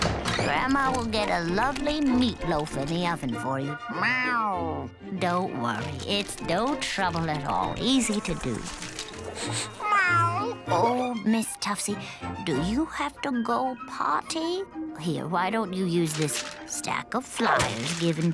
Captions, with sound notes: Grandma will get a lovely meat loaf in the oven for you. [meowing] Don't worry. It's no trouble at all. Easy to do. [meowing] Oh, Miss Tuffsy. Do you have to go potty? Why don't you use this stack of flying given to me